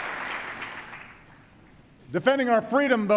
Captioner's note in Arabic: تصفيق